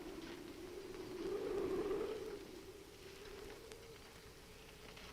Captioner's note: muffled wind howls